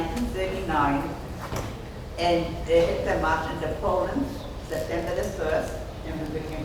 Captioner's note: speaking off mic and muffled